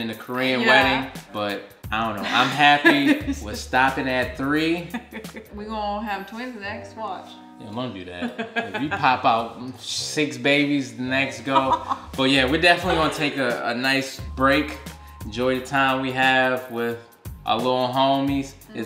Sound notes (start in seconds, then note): 8.2 laughing